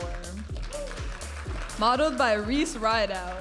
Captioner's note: audience applauding and cheering